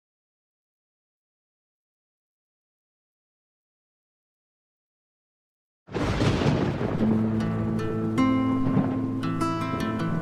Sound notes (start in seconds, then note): 5.9 thunder crashing; 6.9 light acoustic guitar music